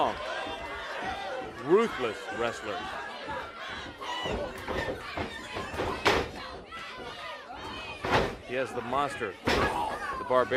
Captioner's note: crowd chatter